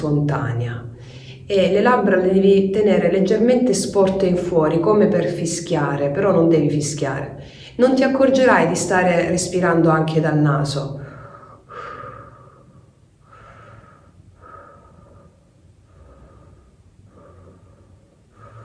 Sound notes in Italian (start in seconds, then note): 11.2 sospiri